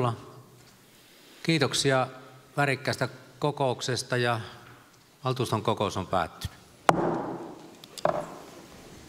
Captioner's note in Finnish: Nuijan kopautus